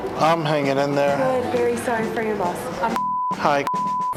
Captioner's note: beep